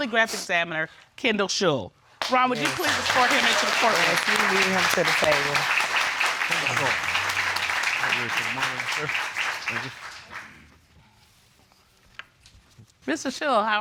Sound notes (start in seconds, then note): 2.9 audience claps